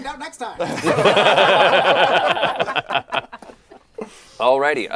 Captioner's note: laughter